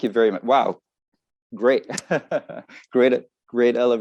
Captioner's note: laughs